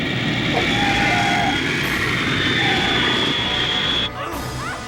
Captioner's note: tires screech; people groaning